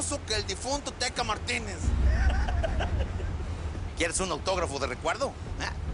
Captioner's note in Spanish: Risas